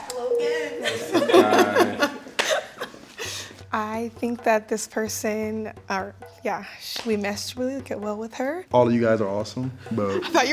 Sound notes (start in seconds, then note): 0.0 chuckles; 0.5 all laughs